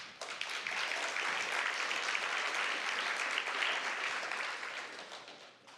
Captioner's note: applause